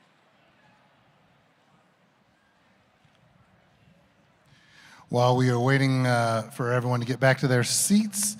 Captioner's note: applause